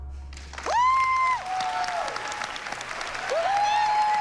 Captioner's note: applause, cheering